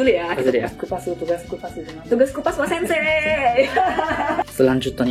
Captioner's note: laughs